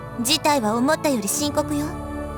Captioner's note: none